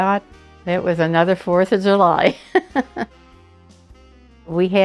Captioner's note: laughs